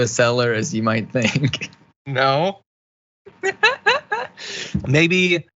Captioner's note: laugh